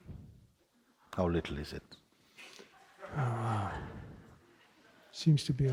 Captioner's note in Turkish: İzleyiciden daha hafif kahkaha sesleri